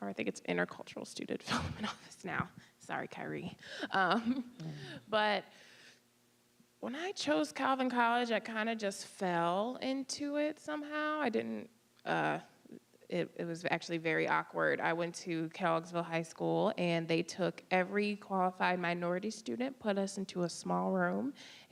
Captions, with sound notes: or I think it's Intercultural Student Development Office now. Sorry, Khayree. (laughing) But when I chose Calvin College, I kind of just fell into it somehow. I didn't-- it was actually very awkward. I went to Kelloggsville High School, and they took every qualified minority student, put us into a small room,